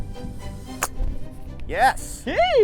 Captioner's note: golf club thwacks